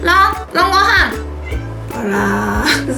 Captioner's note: meow